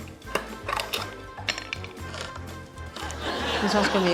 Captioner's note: can opener grinds